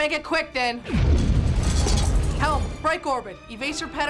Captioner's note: explosion